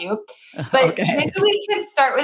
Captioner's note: chuckles